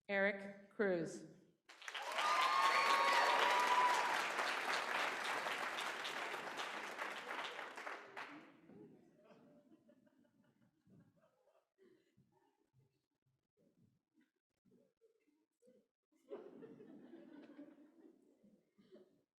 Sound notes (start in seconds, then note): 1.7 applause